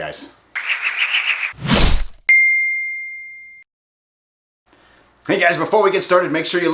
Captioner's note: dinging; whooshing